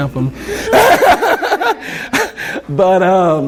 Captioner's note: laughter